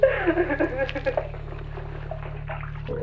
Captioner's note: water pouring